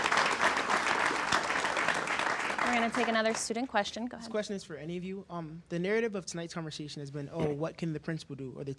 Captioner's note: applause